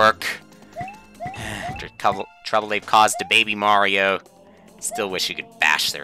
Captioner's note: sigh